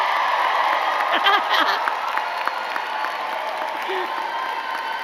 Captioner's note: giggles